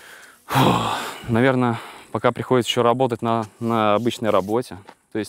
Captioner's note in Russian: выдыхает